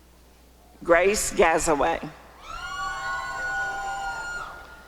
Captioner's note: applause and cheering